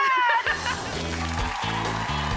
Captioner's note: laughing; lighthearted music; audience applauding